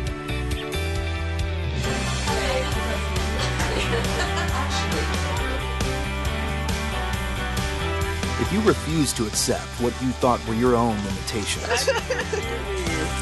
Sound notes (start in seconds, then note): 1.9 laughter; 11.6 laughs